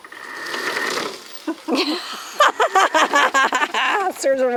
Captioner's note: laughing